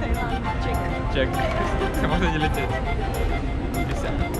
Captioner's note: haha